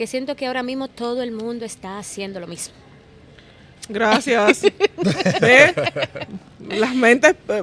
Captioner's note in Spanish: Risas